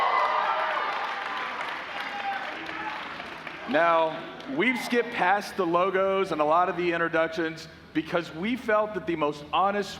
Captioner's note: cheers and applause